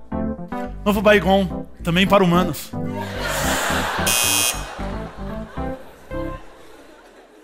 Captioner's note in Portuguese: campainha